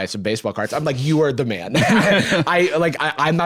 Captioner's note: both laugh